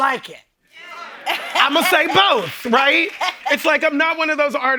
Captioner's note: laughing